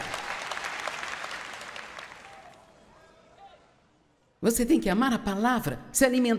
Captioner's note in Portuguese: audiência aplaude